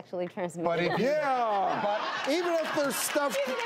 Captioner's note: laughing